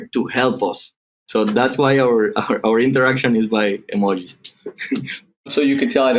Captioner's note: chuckling